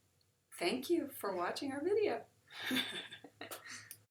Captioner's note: laughter